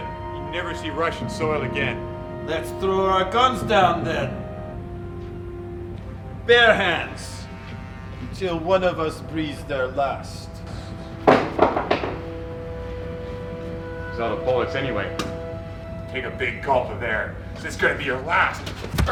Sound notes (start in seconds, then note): 11.3 gun thuds